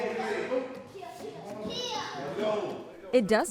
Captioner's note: kid shouting